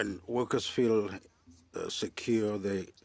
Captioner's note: speaking French